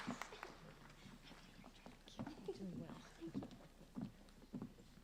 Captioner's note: applauding